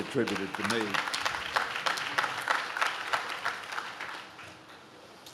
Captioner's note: audience claps